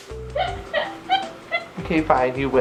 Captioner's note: laughs